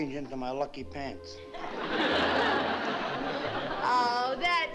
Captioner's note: laughter